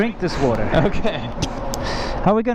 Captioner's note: laughing